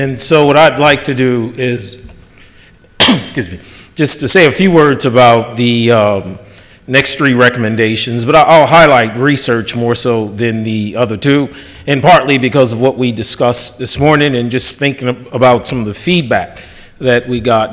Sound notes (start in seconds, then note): 2.9 coughs